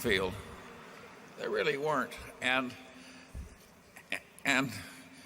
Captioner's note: laughter